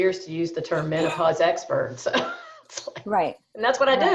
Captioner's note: laughs; laughs